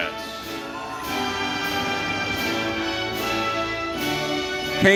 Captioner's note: audience cheering